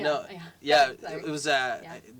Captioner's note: laugh